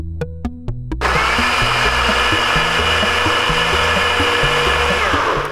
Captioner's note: blender whirring